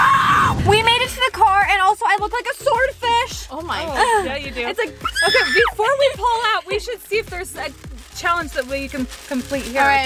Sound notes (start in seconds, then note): 5.0 screams